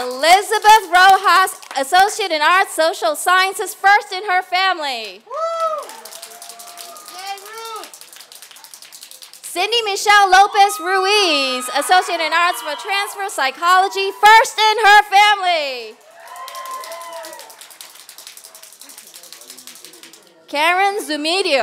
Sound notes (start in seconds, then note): 5.6 applause and cheers